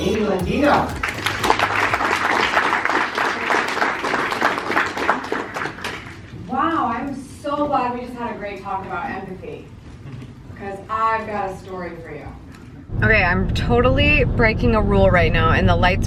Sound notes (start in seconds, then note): 0.0 music drowns out speaker; 0.6 audience applause